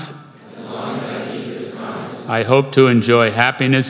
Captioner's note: crowd